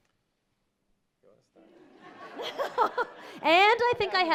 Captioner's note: audience laughing